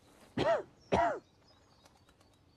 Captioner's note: coughing